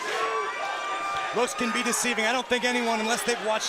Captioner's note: crowd cheering